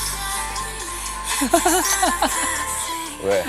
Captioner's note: haha